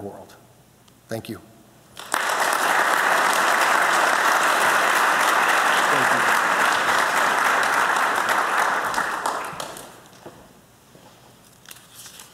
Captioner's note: applause